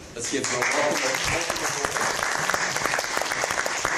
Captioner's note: applause